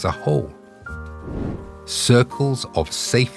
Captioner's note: air whooshing